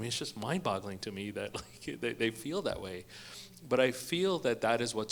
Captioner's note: chuckles